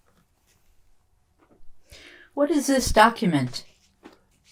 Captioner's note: none